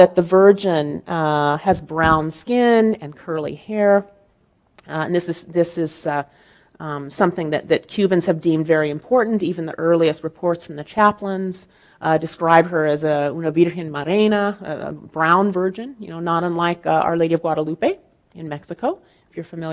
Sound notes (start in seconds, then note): 13.2 speaking in foreign language